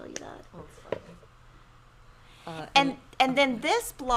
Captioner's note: speaks faintly